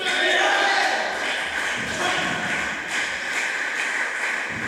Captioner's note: applause